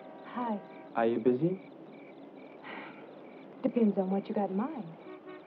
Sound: gasp

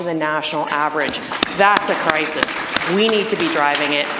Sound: audience applause

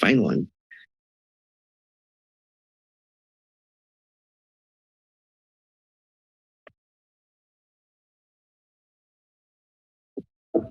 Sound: silence

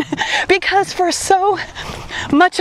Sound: laughs

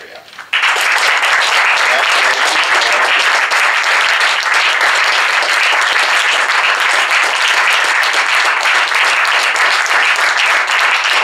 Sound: applause

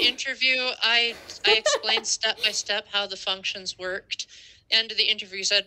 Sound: laughter

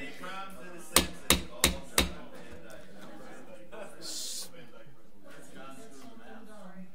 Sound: overlapping chattering; gavel bangs

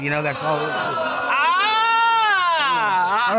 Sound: crowd hooting

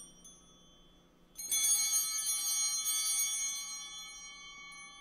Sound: bell ringing

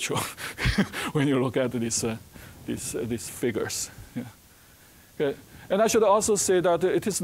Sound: chuckling

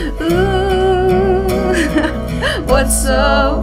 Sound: laughs

